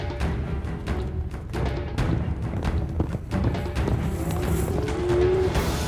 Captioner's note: hoof beats; mooing